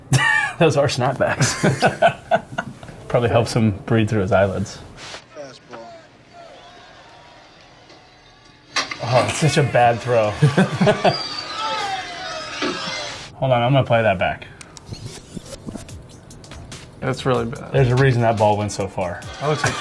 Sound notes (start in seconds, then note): 1.3 Walker laughing; 1.4 laughs; 10.5 players laughing; 14.7 tape rewinding